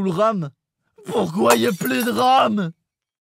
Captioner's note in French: bruit de verre cassé